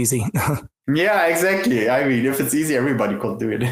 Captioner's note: laughs